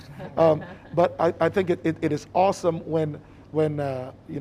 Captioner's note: panelists chuckling